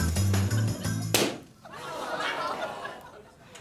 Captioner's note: popping